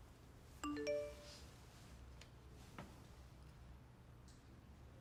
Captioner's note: notification chiming